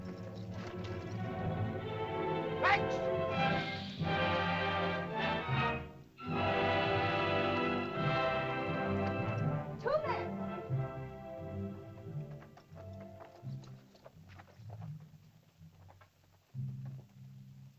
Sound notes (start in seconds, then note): 0.1 suspenseful music; 2.5 Tumak shouts in caveman language; 4.0 dramatic music; 12.3 soft music